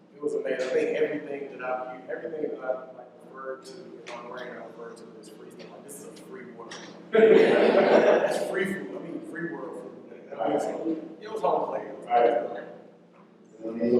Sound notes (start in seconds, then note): 7.1 laughter